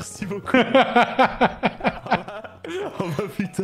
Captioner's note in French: rire